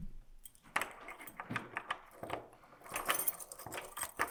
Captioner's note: key clanging